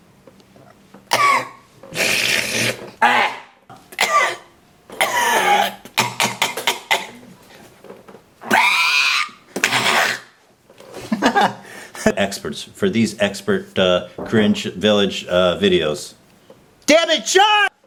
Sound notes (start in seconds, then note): 0.0 coughs; 1.9 coughing and Slurping; 9.6 coughing; 9.7 Satan's Screech; 11.0 chuckles